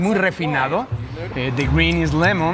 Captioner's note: speaking in a foreign language